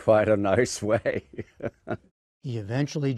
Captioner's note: laughter